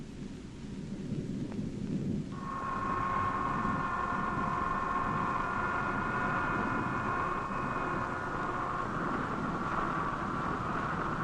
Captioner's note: machines whirring